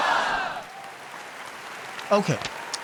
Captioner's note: audience applauds